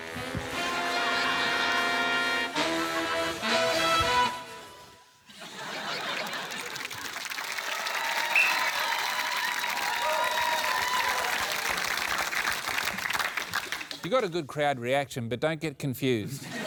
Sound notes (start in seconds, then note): 8.0 cheering, applause; 8.3 blows whistle